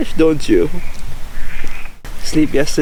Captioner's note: croaking sounds